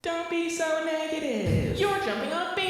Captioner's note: echoing mockingly